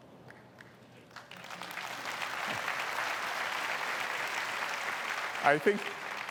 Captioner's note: applause